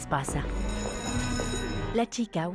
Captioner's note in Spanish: campanilla